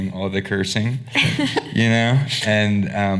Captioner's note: laughing